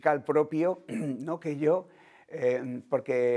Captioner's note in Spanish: Carraspea